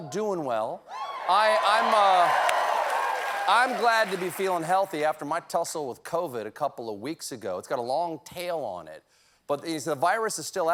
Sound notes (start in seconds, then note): 1.2 applause